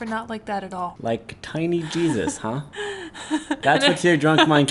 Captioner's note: laughs